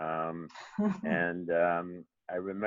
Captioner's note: laughing